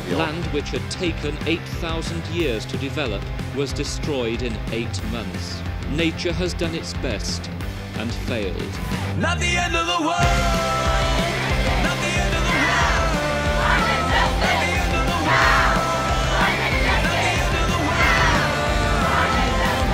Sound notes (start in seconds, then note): 9.0 upbeat Music; 13.7 chanting; 17.0 upbeat Music